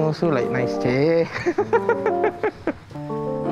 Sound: laughs due to gibberish

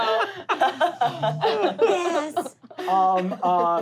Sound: laughing

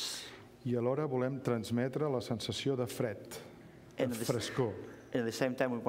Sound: speaking catalan

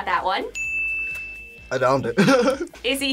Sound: bell rings; laughs

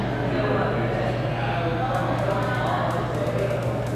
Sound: none

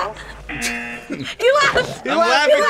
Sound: laughs; buzzer; laughs

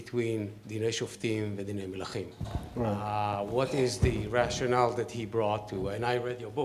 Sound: speaking hebrew

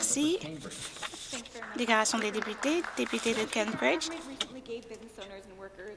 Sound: applause

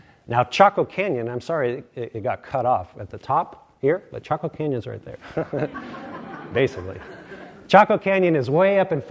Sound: laughter

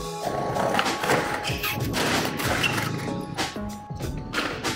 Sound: skateboard clatters

